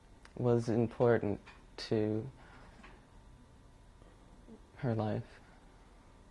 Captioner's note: pauses for 3 seconds